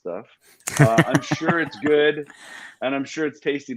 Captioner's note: laughs